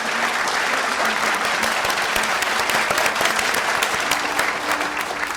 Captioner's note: applause